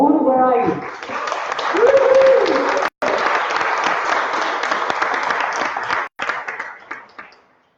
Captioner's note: applause